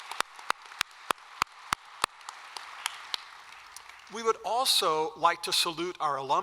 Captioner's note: applause